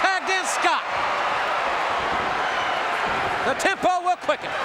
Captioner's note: audience cheering